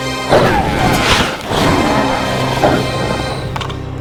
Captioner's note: riverbeast roaring